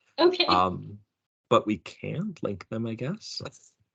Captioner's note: everyone laughing